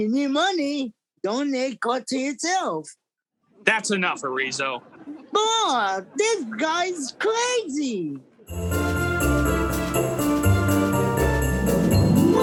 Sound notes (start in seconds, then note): 4.4 audience laughing; 8.4 bright upbeat music